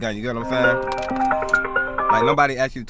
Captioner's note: phone ringing